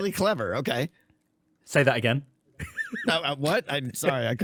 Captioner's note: stifled laughter